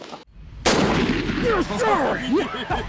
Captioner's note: gunshot